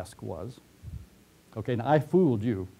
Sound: pause

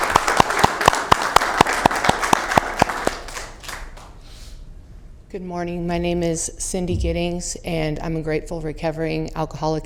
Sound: applause

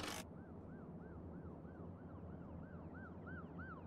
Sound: distant siren

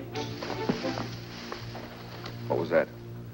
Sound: shrubs rustling

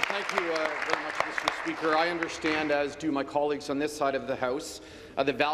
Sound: applause

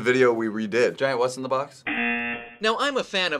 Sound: buzzer

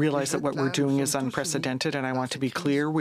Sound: speaking French

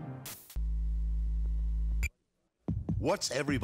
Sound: TV static noise

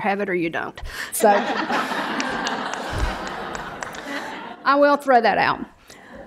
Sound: brief laughter

